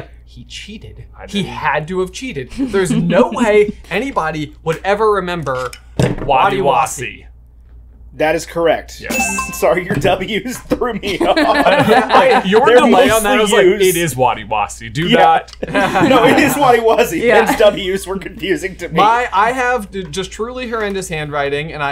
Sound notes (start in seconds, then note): 11.1 laughs